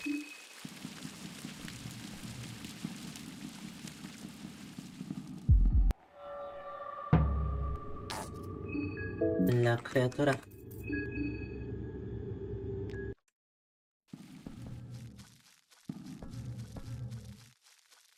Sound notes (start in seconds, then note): 0.0 fire crackling; 2.4 speaking in foreign language